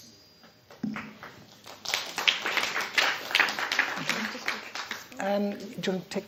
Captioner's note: applause